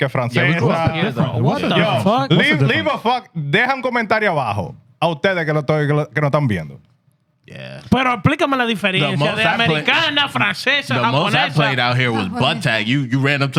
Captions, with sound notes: we talked in the front, what the fuck? Leave a fuck, they have a commentarra, (Speaking In Foreign Language) The most I played out here was Butt-Tac, you ran up